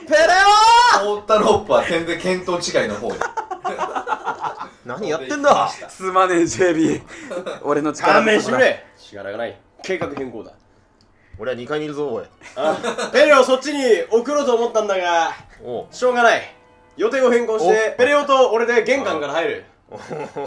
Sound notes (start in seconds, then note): 3.1 laughing